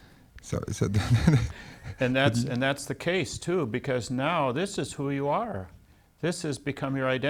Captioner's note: laughs